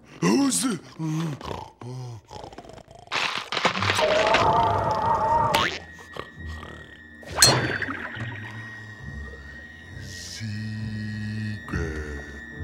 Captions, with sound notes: Who's- [snoring] [cracking] Secret.